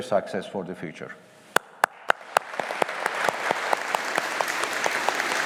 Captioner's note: audience applauding